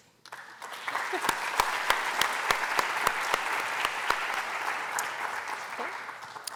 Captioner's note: applause